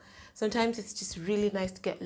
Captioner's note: none